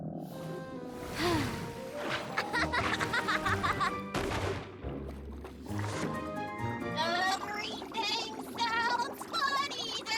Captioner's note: gurgling